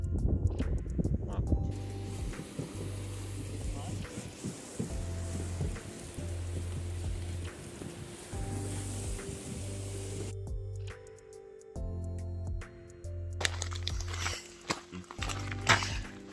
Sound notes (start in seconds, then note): 4.0 noise of water in a mountain river; 10.8 calm music